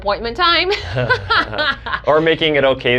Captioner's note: both laugh